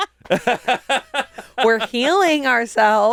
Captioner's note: all laugh